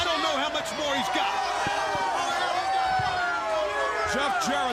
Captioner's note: crowd chatter